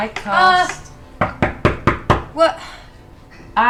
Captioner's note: knocks